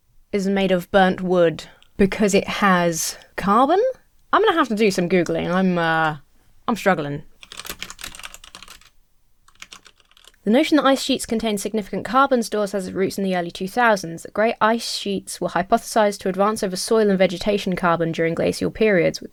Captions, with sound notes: is made of burnt wood because it has carbon? I'm gonna have to do some Googling. I'm... I'm struggling. (keyboard clacking) “The notion that ice sheets contain significant “carbon stores has its roots in the early 2000s. “The great ice sheets were hypothesized to advance “over soil and vegetation carbon during glacial periods,